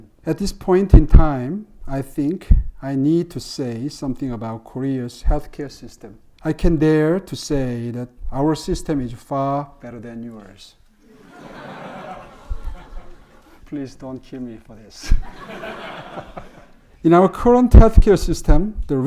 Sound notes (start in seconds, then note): 11.1 audience laughing; 15.9 everyone laughing